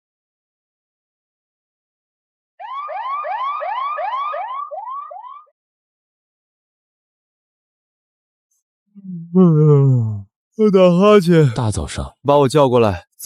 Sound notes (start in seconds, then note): 9.0 yawn